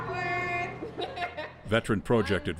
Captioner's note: laughing